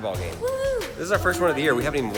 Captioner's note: cheers